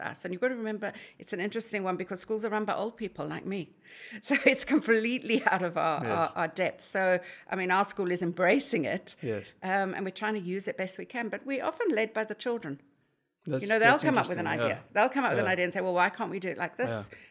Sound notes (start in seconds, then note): 6.0 laugh